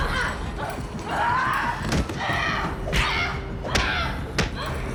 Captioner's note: Kathleen exclaiming